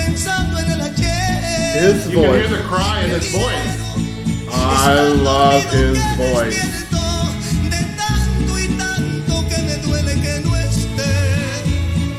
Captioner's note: you can hear the cry in his voice